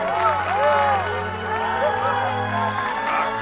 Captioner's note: crowd cheering